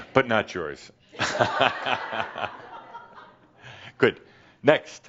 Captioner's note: Adamus chuckles